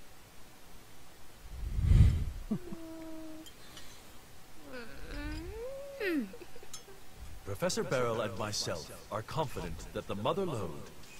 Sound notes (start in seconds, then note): 2.3 pitiful groaning